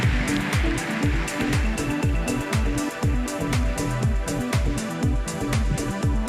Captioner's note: applause